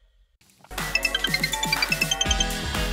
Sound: phone rings

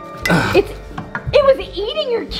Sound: grunts

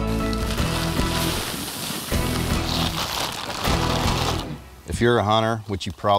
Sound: corn rattling into feeder

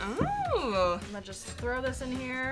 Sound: exclaiming

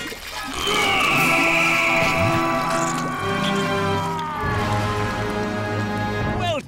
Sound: screaming

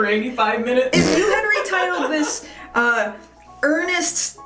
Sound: fart noise followed by laughter

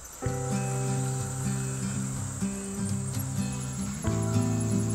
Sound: idyllic guitar music; rasping and squeaking

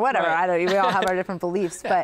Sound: laughs

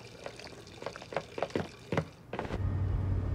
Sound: footsteps clacking; engine purring

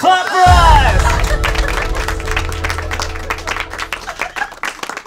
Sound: audience clapping

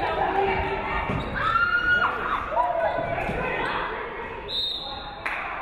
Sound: woman screaming; referee whistles

